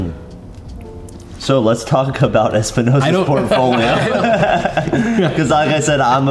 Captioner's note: laughs